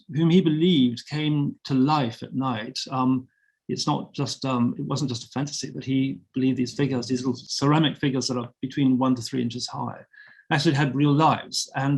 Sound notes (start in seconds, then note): none